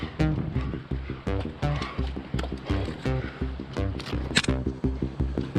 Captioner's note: breathing hard and searching for holds